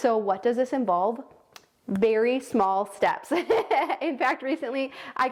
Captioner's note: laughs genuinely